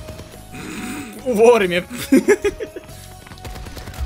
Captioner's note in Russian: смех